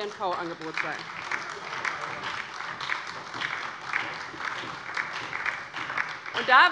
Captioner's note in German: Beifall bei der LINKEN und der FDP sowie bei Abgeordneten der SPD